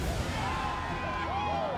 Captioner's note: all cheering